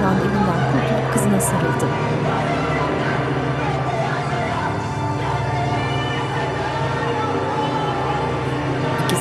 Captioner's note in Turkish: Boğuk bağırma sesleri